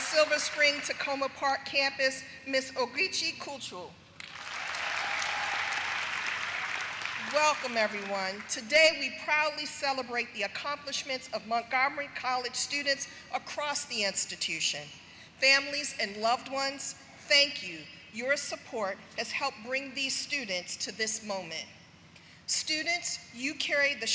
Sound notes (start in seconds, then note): 1.3 applause; 9.4 applause